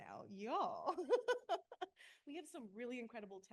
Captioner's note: laughs